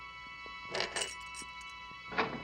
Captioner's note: keys rattling